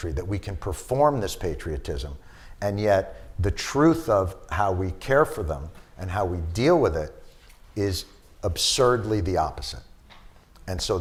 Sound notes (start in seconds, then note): none